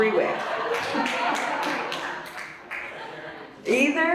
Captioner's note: audience laughs and applauds